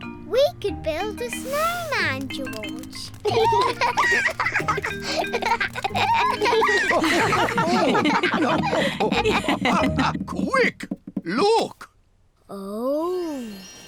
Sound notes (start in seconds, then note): 3.2 both giggle; 8.1 all laugh